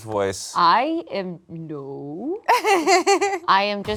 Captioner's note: laughs